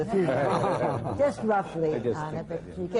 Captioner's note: laughter